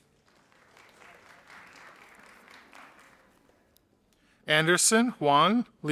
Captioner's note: audience applauding